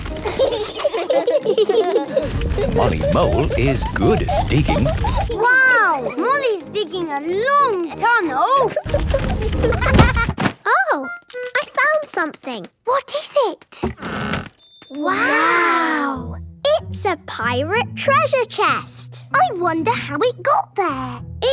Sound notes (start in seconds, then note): 8.9 thuds